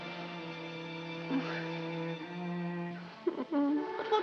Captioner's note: moaning